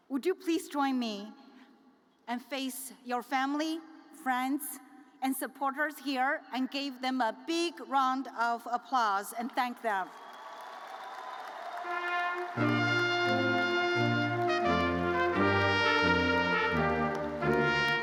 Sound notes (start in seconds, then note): 11.3 audience cheers; 11.9 uplifting music